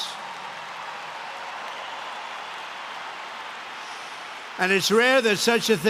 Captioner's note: applause